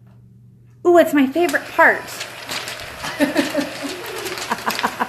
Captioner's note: laughs